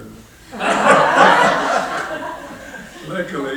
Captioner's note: laughing